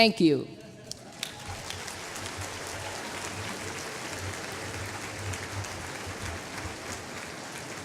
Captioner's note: applause